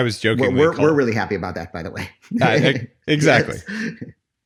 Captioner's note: laughs